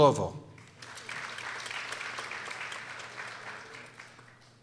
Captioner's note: people applauding